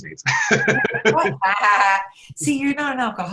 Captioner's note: laugh